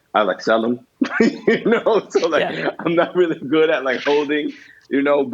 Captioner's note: laughs